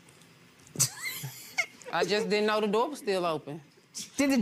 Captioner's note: laughs